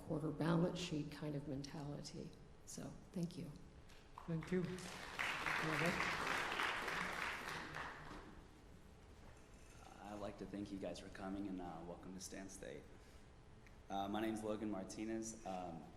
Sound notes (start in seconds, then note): 6.8 applause